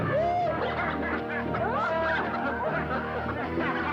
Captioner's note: all laughing